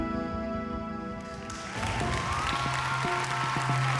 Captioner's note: applause